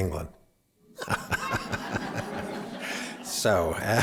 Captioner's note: laughter